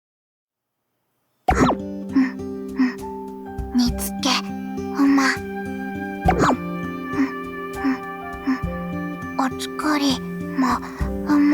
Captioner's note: humming